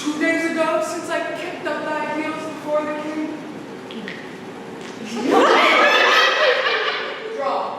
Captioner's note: laughter